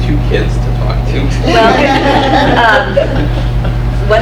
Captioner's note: laughs